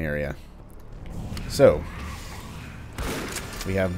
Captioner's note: Bugdogs snarling